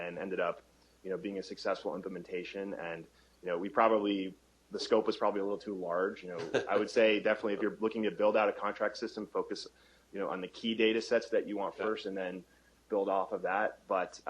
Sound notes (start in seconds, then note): 6.4 chuckle